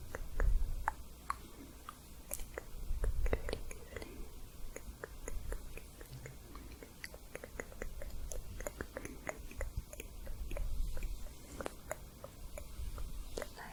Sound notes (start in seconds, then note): 0.0 tongue clicking; 6.1 layered tongue clicking